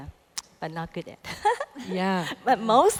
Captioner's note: laughs